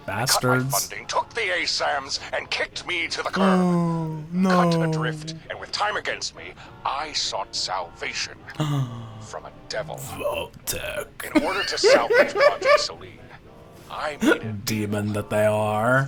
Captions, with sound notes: Bastards. Oh, no. Oh, Vault-Tec. (laughs) Demon that they are.